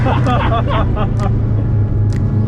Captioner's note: laughing